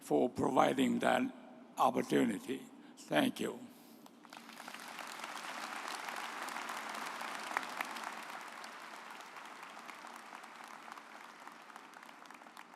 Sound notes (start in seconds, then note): 4.2 audience applauds